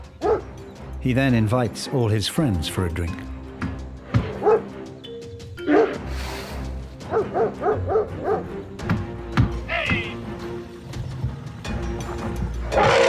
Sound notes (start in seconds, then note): 5.1 dog barking